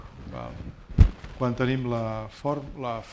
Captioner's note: speaking spanish